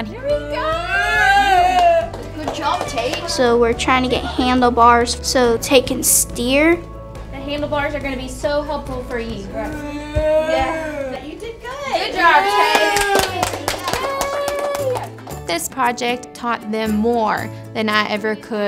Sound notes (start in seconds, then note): 1.5 claps; 13.9 claps